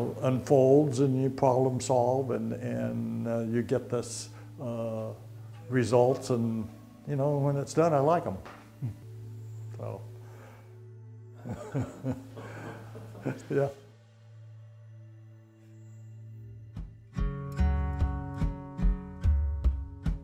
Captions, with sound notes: Unfolds, and you problem-solve, and you get this result, and when it's done, I like 'em. (chuckles) Yeah. (serene guitar music)